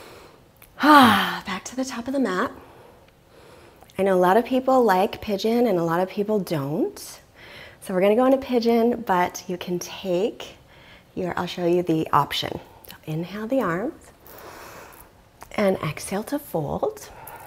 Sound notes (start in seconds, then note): 14.2 inhales deeply; 17.2 exhales deeply